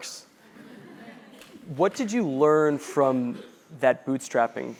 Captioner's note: laugh